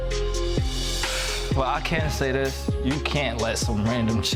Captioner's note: sighs